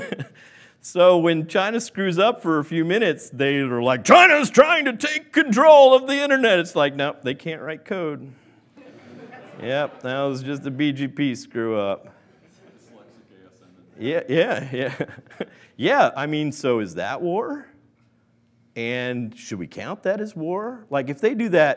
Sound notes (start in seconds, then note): 8.8 laughing